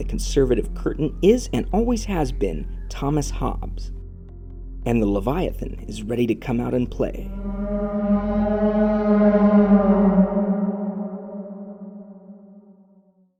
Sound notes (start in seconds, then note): 7.1 eldritch wailing in distance